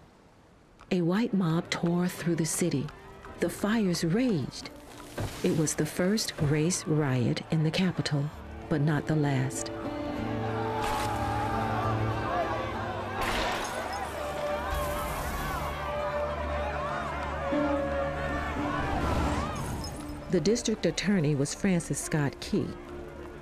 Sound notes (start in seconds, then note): 9.4 indistinct chatters; 9.4 somber music